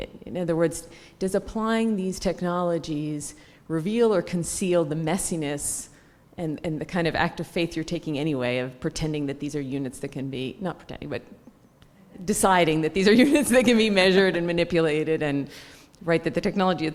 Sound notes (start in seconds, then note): 13.9 laugh